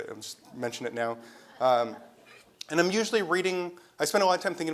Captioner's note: laugh